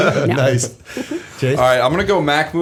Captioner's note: laughter